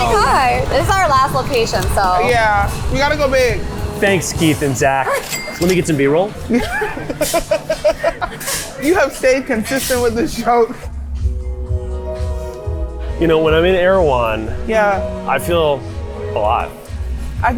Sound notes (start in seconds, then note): 5.1 till chiming; 6.4 laughing; 11.9 relaxing music